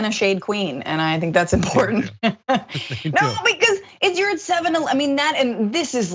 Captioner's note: laugh